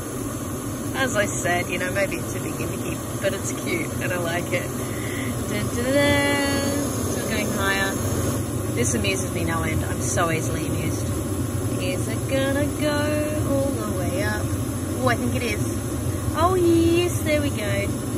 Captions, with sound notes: As I said, you know, maybe it's a bit gimmicky, but it's cute, and I like it. [verbalises a fanfare] It's still going higher. This amuses me no end. I'm so easily amused. [in a sing-song voice] Is it gonna go all the way up? Ooh, I think it is. Oh, yes, there we go.